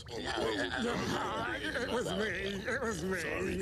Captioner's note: mumbling